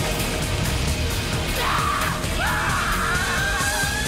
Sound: screaming

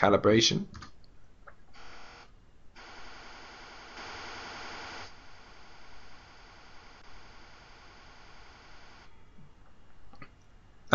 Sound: calibration noise

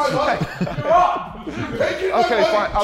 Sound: Sidemen laughing

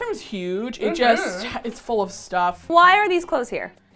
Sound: sighs

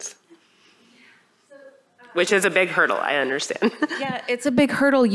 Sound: laughter

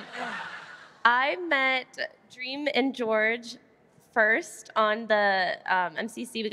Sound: cheering

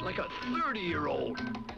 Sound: branch creaks

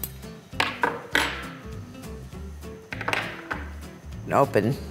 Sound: silverware clanging

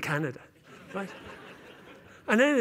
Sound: laughter

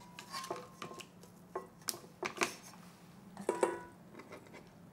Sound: utensils tapping

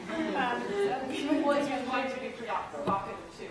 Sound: audience laughter

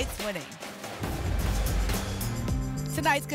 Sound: whoosh

